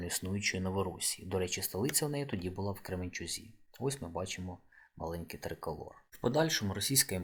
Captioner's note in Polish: rosyjski